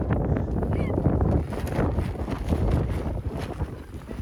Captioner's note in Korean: 탈탈